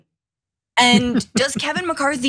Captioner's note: laugh